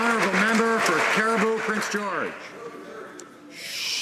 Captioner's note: some Applause